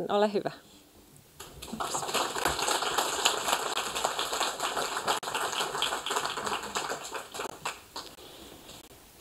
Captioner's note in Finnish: Aplodeja